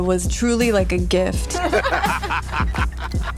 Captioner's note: both laughing